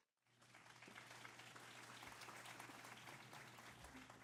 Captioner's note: applause